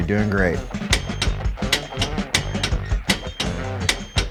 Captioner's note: wrench clicking